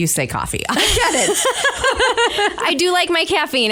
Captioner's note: both laugh